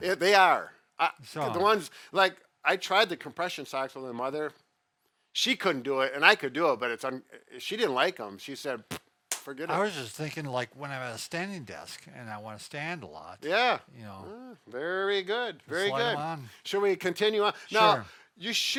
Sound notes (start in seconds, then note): 9.9 makes pfft sound